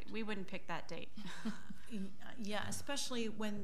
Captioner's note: laughing